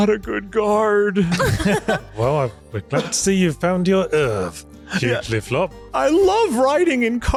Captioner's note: laughter